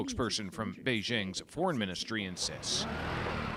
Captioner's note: speaking alternate language